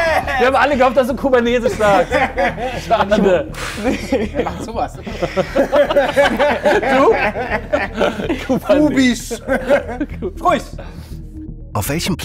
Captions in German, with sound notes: Wir haben alle gehofft, dass du Kubanesisch sagst. (Lachen) (Schnaufen) Wer macht denn so was? (Lachen) Du? Kubisch. Ruhig.